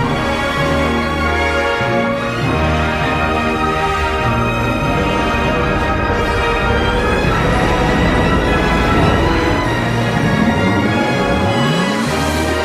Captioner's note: stirring awake to the sounds of a holovision